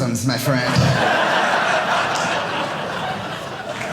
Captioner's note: audience laughing